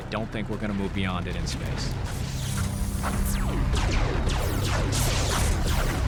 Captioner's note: space fight sound